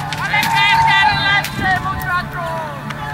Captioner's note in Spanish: Ruidos de batalla